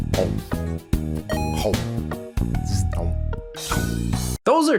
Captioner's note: game chiming